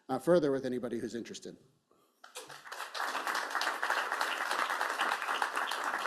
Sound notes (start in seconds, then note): 2.3 applause